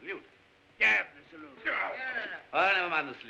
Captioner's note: guards grumble